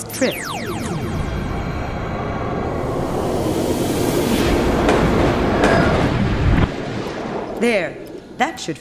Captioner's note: machine noises